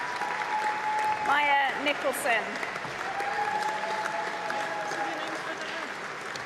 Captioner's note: applause